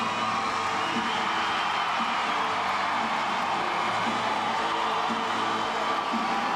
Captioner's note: crowd cheering; upbeat music continues